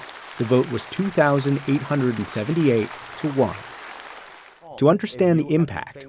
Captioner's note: audience applauding